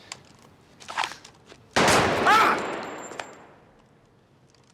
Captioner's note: gunshot; screams